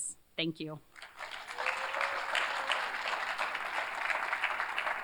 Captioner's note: applause